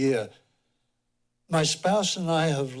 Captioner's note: pause